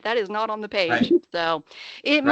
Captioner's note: chuckling